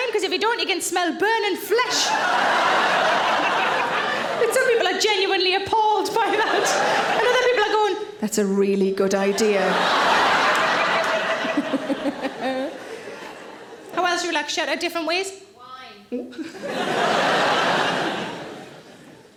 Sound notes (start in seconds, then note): 1.8 audience laughing; 9.2 audience laughing; 11.2 Sarah laughs; 16.4 audience laughing